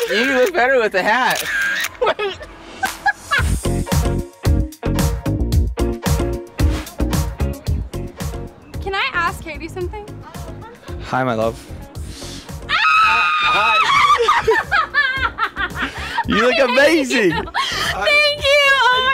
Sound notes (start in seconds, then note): 1.3 laughing; 3.9 jazzy music; 12.6 Addison screaming and laughing